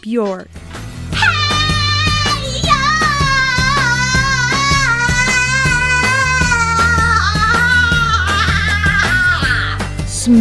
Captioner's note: screams